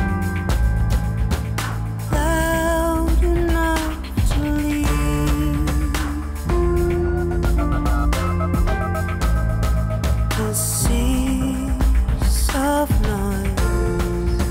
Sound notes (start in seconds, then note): none